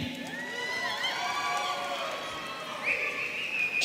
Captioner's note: audience cheering